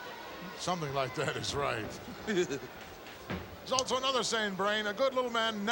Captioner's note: laugh